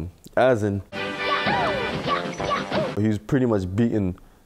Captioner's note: in-game sounds